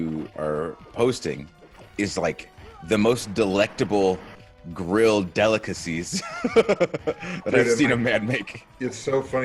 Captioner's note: laugh